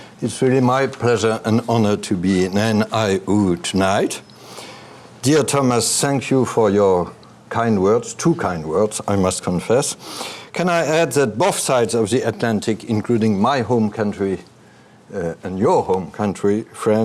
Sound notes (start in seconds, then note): none